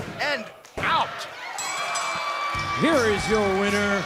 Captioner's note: bell ringing